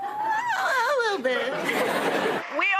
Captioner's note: laughter